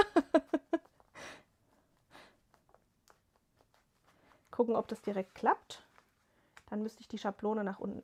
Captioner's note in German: gelächter